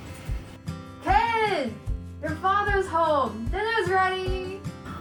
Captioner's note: wife Shouting